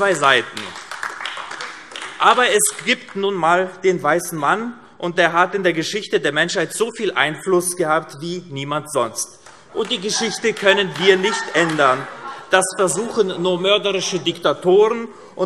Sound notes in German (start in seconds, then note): 0.0 Beifall AfD; 10.1 Vereinzeltes Lachen DIE LINKE